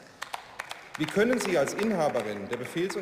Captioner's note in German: Beifall